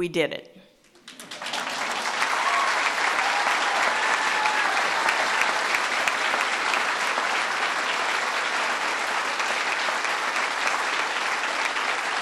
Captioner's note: applause